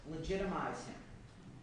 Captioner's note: none